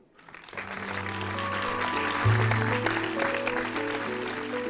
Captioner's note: audience Applause